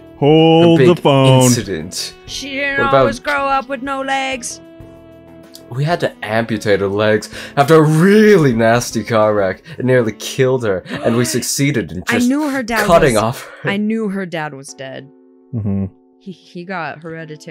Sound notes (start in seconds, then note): 10.9 gasps!